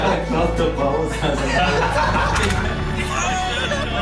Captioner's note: chuckling